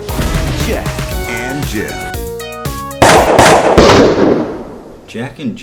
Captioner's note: gunshot noises